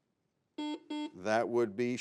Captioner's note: buzzer beeps